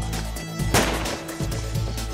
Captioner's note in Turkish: si̇lah sesi̇